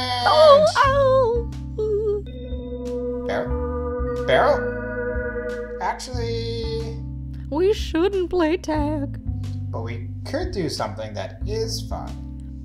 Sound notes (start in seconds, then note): 3.0 dreamy Sci-fi sound fx